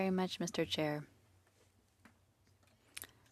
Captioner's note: speaking French